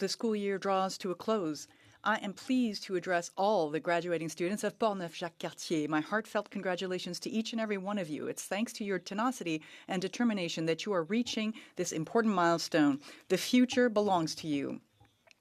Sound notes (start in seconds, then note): 4.6 speaking French